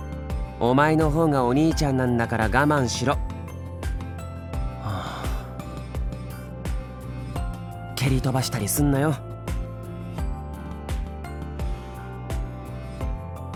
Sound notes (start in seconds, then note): 4.7 sigh